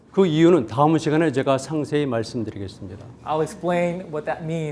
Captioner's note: speaking in Korean